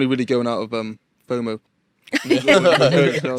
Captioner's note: group laughing